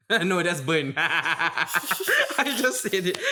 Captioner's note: chuckles; laughs